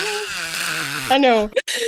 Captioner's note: screaming